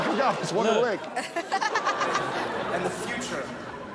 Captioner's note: Chanel and audience laughing